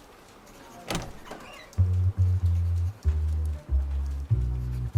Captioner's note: door opens, soft jazz